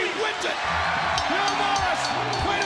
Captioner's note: crowd cheering; bell ringing